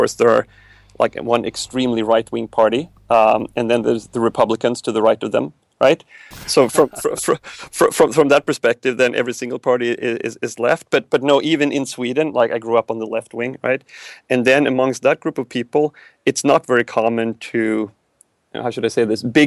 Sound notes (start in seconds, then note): 6.4 laughs